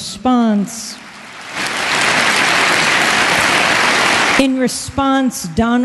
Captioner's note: applause